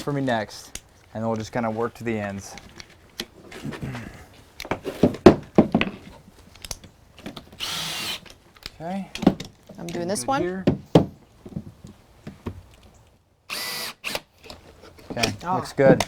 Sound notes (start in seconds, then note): 3.8 hammering, then drilling, no additional audio; 10.6 hammering and drilling, no additional audio